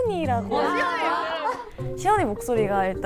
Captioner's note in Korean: 격한 환호